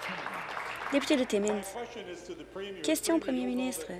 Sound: applause

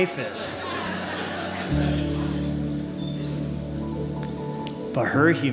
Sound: laughter

